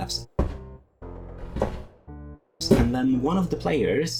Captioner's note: the sound of heavy boots